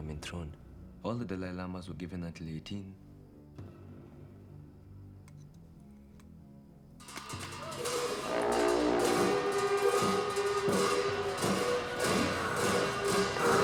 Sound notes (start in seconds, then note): 11.1 hissing